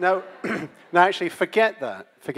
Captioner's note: audience laughs